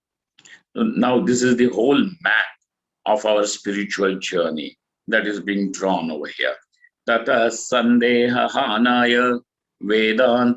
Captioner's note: sanskrit